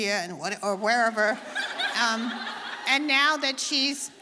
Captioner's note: audience laughing